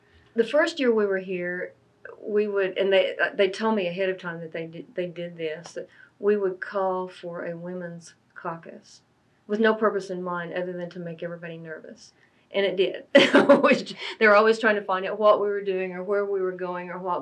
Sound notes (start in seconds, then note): 13.0 laughs